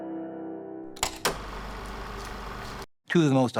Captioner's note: film reel spinning